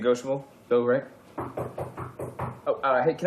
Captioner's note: knocks on door